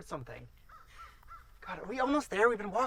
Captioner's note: birds squawking